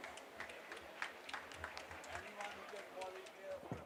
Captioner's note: audience applause